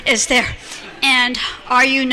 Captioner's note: laughter